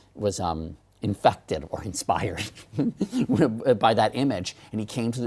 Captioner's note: laugh